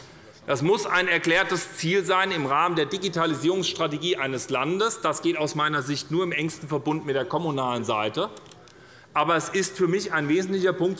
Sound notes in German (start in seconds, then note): none